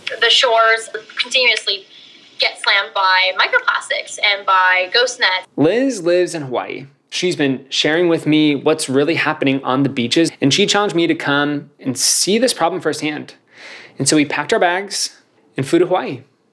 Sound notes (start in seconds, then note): none